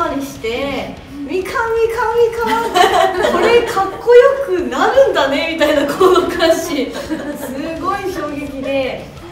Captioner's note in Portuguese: risos